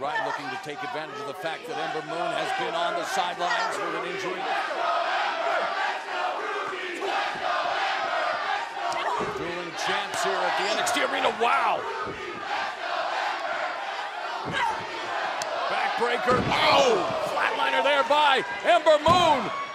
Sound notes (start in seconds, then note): 8.1 fans chanting